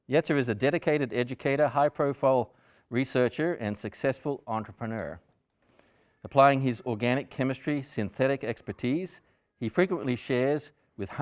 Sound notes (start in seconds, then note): none